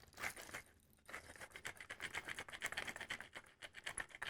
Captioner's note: grating